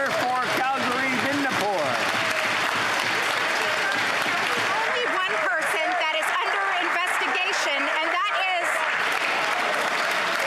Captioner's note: applause